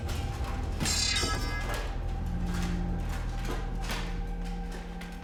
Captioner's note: sword clanking